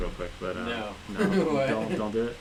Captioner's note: laughs